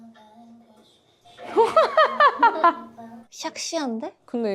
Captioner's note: burst of laughter from embarrassment